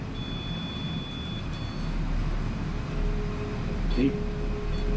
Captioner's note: device ringing and beeping